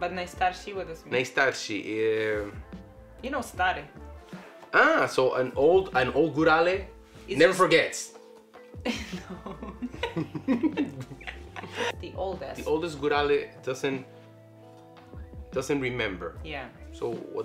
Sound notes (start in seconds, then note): 8.9 laughs